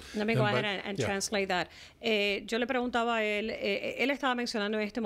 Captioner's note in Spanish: Hablando ingl\s